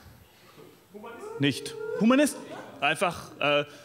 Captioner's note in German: Zuruf